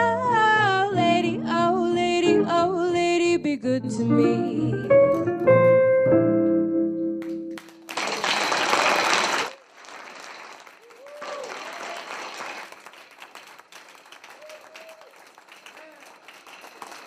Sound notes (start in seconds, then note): 6.3 jazz music; 8.9 trustees applaud; 8.9 trustees cheer